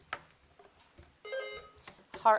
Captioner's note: bell dings